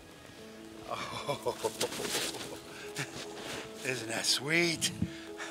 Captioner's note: laughing